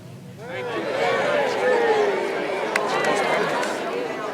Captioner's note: croud cheering